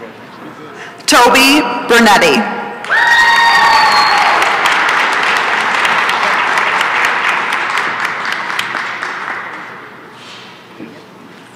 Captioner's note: applause and cheering